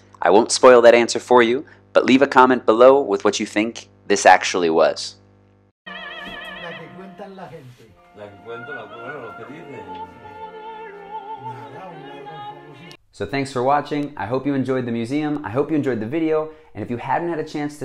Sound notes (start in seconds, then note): 5.8 speaking in foreign language; 5.8 woman singing